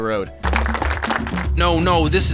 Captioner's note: more applause